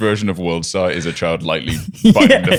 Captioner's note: laughter